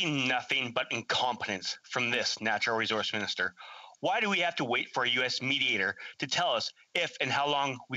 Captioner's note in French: voix de l'interprète